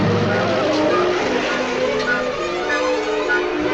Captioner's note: engine rumbling